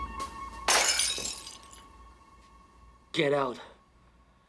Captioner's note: glass shatters